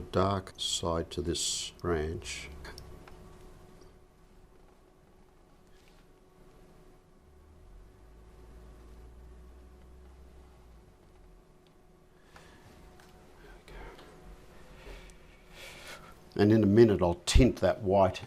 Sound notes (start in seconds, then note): 3.6 silence